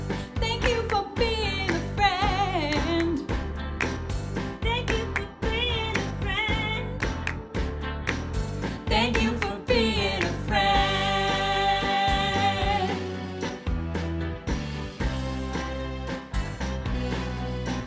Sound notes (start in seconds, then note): 0.0 clapping; 3.8 clapping; 6.9 clapping; 12.7 lively music